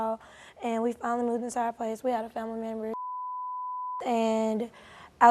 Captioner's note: beep